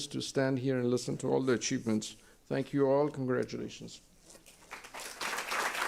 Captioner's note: applause